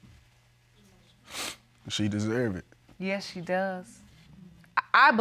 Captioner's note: sniffles